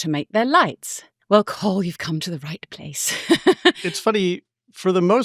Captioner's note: chuckles